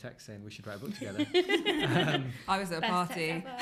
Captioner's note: laughter